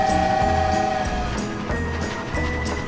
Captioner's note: train whistle blows